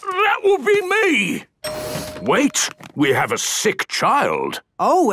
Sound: door dings open

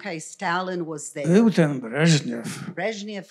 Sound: foreign language

